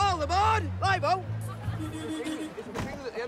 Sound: horn honking

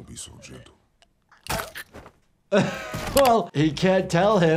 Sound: neck snaps; doctor laughs

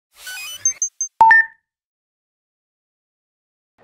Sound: beeping

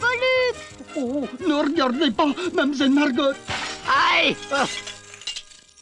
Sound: yells

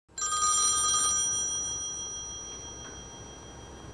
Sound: phone ringing

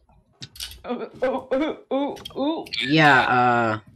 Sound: laughs

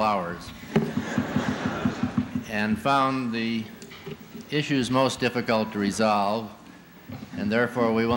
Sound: laughter

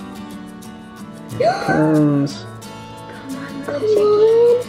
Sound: gasps

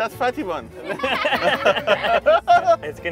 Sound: group laughs

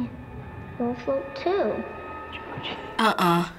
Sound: whispers

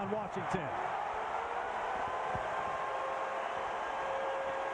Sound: cheering, applause

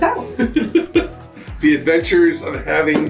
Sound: laughing

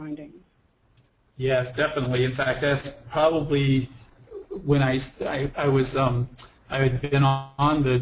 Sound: voiceover

